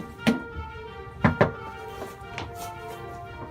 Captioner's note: knocking